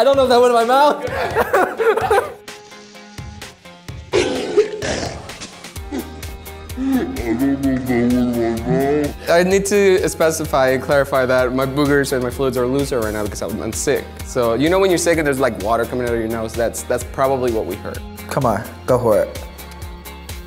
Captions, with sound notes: - I don't know if that went in my mouth (laughing). (coughing and spitting) - I need to specify, clarify that. My boogers and my fluids are looser right now because I'm sick. You know when you're sick and there's water coming out of your nose? That's probably what we heard. - Come on, go for it.